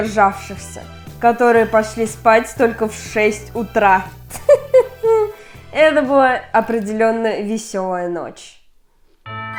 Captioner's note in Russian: смех